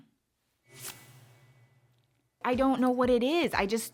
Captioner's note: clicking and whooshing